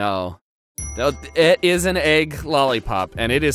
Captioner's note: dings